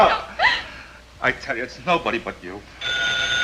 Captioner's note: sobbing